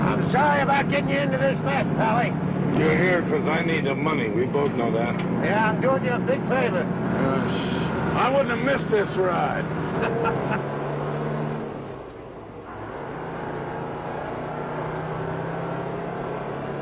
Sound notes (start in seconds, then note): 9.8 Jake laughs